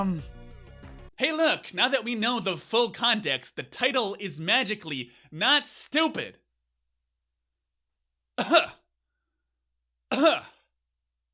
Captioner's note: cough